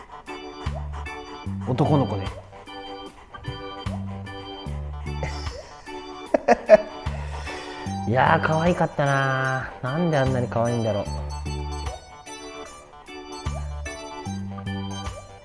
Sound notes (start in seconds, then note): 6.2 laughs